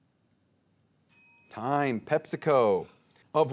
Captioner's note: bell dinging